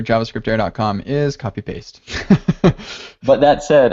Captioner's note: laughs